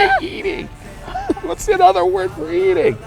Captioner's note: both laughing